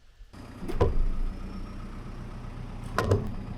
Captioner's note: engine idles